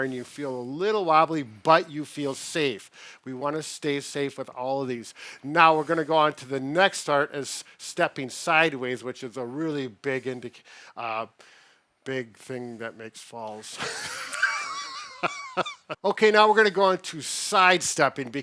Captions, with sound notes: and you feel a little wobbly, but you feel safe. We wanna stay safe with all of these. Now, we're gonna go on to the next start as stepping sideways, which is a really big thing that makes falls. (laughing) Okay, now we're gonna go on to sidestepping